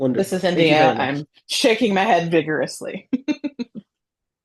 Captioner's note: laughs